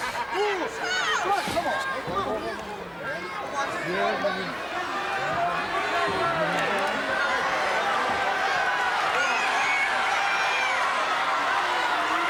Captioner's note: applause